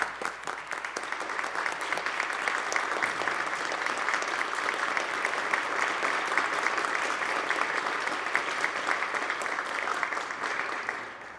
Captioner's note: applause